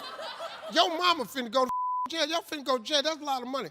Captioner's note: audience laughs; beep